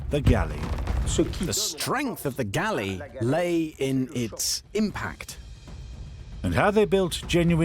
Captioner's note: voiceover